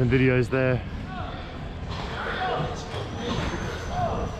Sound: man yelling

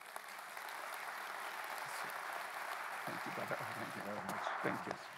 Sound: congregation clapping

